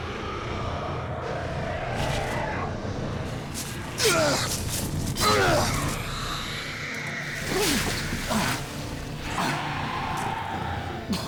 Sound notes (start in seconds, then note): 5.5 dragon hissing; 9.2 dragon roaring